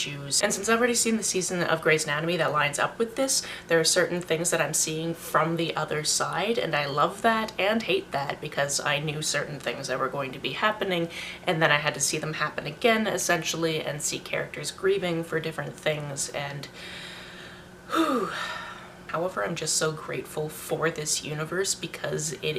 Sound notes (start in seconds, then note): 17.8 sigh